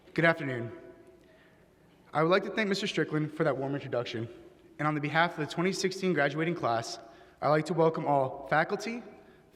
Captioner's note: none